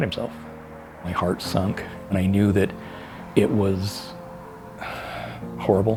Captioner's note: sighs